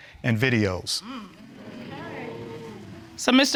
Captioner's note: crowd gasping